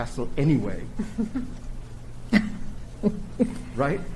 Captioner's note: chuckle